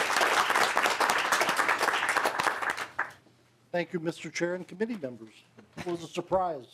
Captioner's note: applause